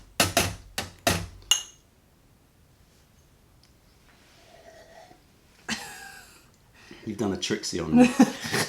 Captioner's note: sips tea